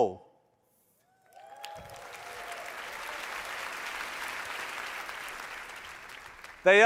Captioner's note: audience cheering and applauding